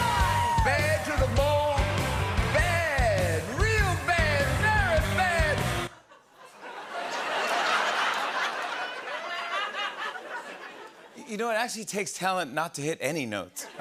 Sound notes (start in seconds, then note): 5.9 laughter